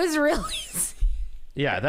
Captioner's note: laughs